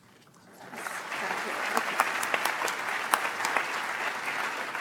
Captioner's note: audience applauds